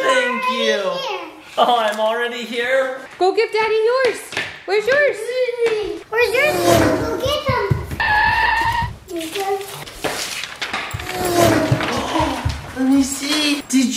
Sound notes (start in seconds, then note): 8.3 screeching